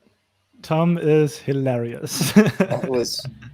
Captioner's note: laughs